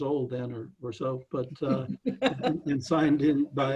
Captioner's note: laughing